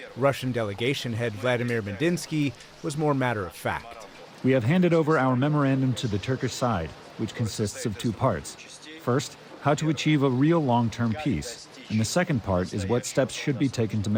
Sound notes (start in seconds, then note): 4.9 through translator